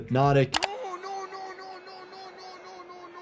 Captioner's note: keyboard clicking